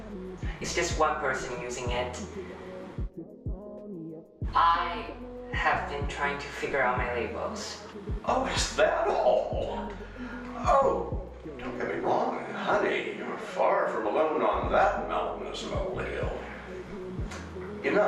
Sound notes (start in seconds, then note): 9.4 laughing